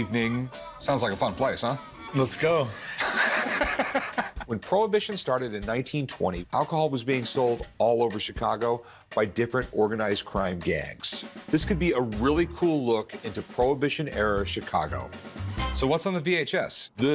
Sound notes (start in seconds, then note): 2.8 Rick laughs